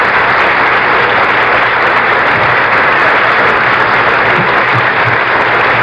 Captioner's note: applause continues